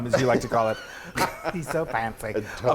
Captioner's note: laughs